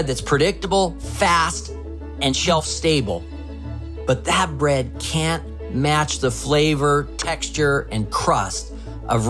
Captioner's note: none